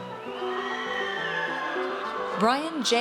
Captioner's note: audience cheers